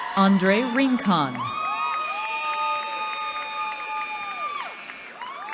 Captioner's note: cheering